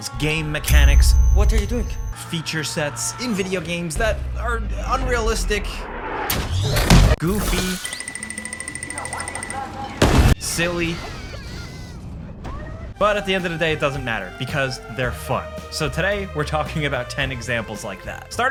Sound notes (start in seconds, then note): 7.9 timer beeping; 11.3 children chattering